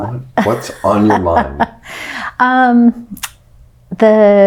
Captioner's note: laughing